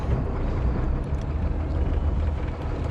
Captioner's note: winch motor running